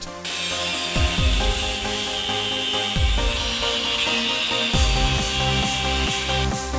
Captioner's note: grinder noise